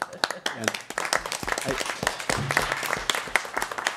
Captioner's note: applause